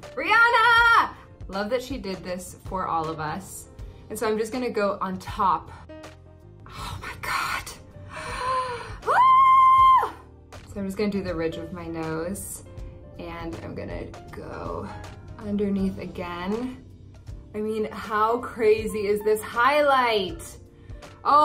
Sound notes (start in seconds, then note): 8.0 gasps; 9.0 screams